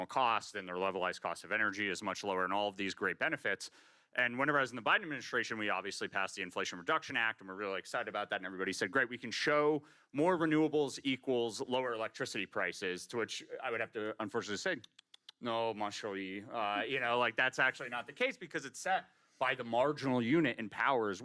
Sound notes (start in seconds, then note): 14.8 clicks tongue